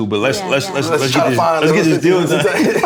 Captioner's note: laughter